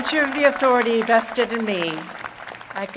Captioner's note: applause